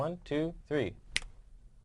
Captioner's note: snap